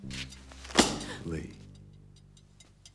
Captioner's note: slam